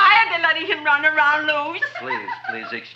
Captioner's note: Audrey laughs